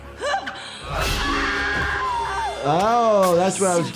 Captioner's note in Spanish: personaje gritando